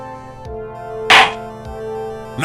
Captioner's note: gavel slams!